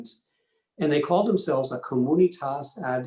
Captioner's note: foreign language